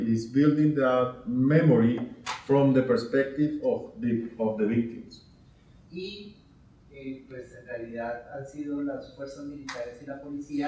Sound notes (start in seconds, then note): 6.1 speaking in Spanish